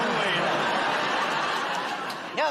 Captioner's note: laughter